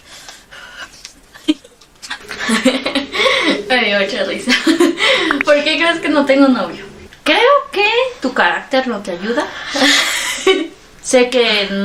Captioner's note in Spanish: risas